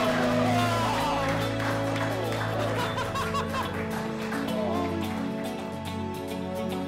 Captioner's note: applause and cheering